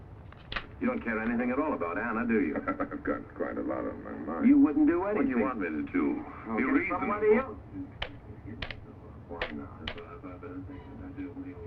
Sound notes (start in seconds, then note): 2.2 laughs